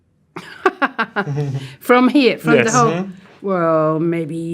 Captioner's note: laughs